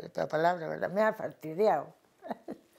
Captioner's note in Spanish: ríe